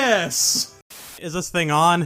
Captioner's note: static